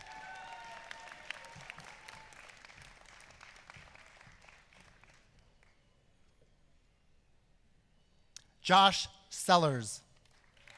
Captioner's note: applause